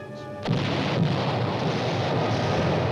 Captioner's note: cannon fire